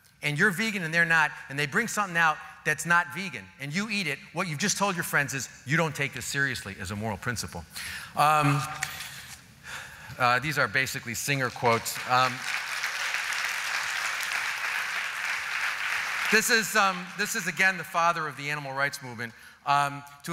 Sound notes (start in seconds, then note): 11.4 applause